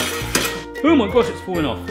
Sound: noisy clattering

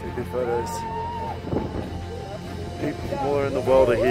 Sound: faint cheering

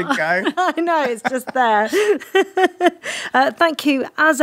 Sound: laughs

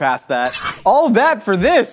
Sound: knife slices

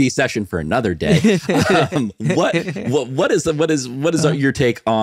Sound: chuckling; laughing

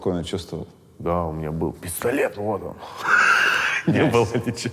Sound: laughs

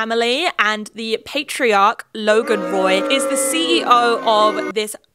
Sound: audience booing

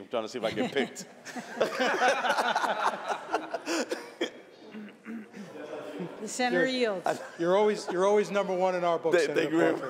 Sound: laughter

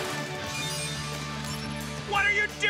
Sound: device chimes

